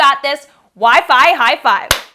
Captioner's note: loud clap